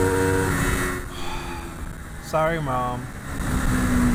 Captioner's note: sigh